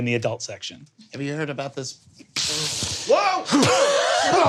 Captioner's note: gasps; yelps